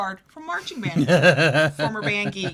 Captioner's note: laughs